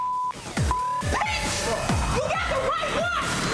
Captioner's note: beep